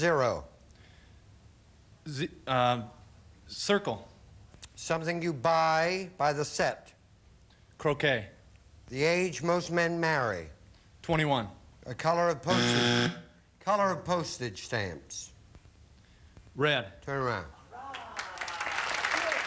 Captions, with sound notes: Another word for zero. Zi... Um... circle. Something you buy by the set. Croquet. The age most men marry. Twenty-one. A color of postage... [buzzer sounds] Color of postage stamps. Red. Turn around.